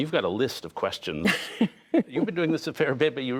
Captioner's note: laughter